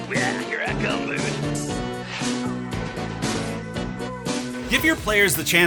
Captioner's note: Beetlejuice noises